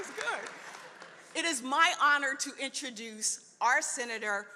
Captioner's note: laughter